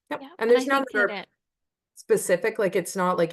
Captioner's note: Host speaking off mic